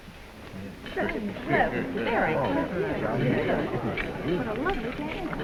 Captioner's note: crowd chattering